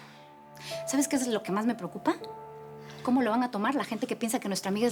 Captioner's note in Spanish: exhala